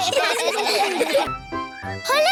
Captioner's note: children laughing